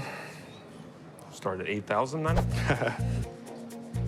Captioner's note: laughs